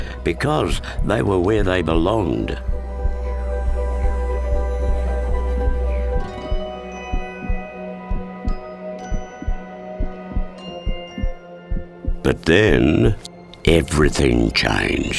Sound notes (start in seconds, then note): 5.2 hearts beat; 8.1 happy music